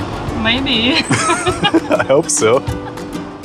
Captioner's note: both laugh